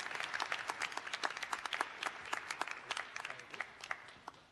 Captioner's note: applause